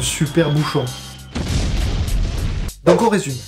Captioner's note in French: bruit d'explosion